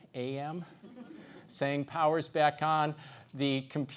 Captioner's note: laugh